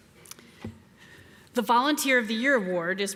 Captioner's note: none